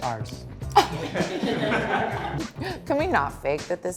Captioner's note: laughs